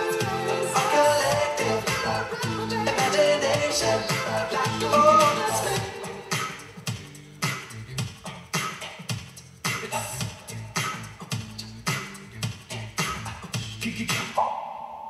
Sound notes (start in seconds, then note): 6.1 beatboxing